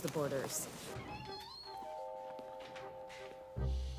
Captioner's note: door creaks; curious music